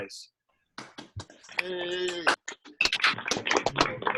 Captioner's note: members clapping